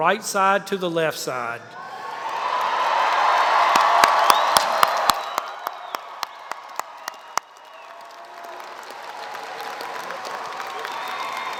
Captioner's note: applause